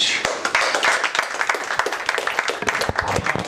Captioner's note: applause